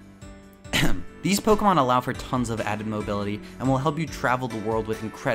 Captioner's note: cough